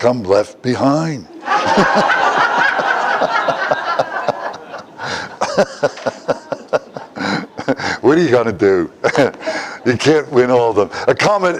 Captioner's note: Смех